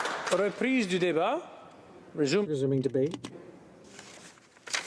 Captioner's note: applause